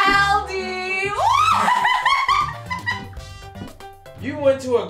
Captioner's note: screaming